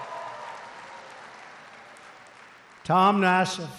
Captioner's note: applause